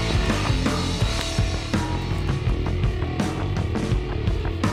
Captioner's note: twigs breaking